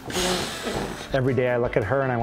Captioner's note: blows